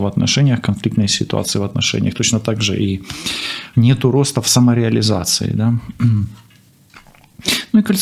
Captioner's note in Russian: откашливается